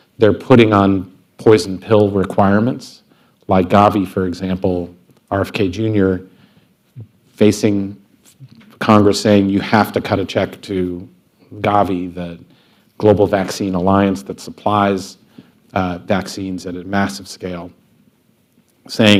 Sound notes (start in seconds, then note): none